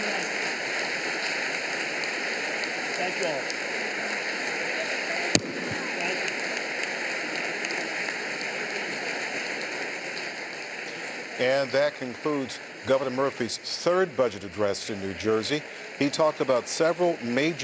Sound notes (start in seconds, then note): 5.8 applause